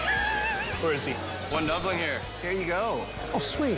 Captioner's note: bell dinging